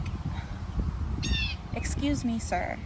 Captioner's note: bird continues cawing